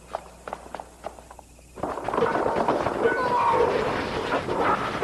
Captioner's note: shouting